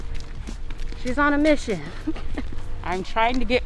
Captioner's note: laughs